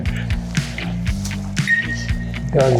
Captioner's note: laughs